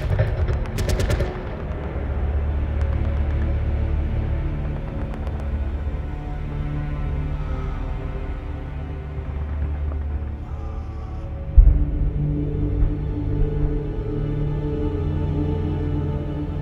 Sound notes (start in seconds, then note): 10.4 man screaming